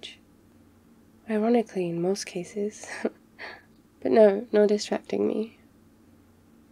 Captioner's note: laughs